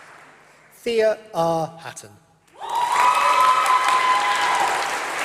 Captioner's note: applause